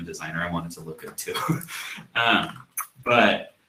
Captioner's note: chuckles